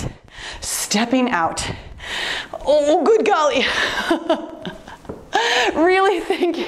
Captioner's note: laughing